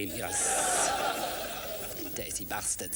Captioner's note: makes steaming sound